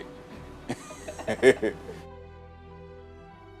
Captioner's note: and producer laughing; gentle music